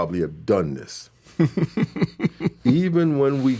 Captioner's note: laughing